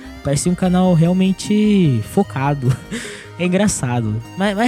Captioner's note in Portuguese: risos